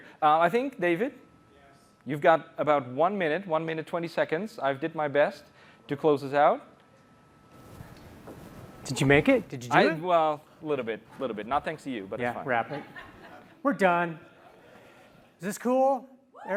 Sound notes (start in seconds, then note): 12.6 laughter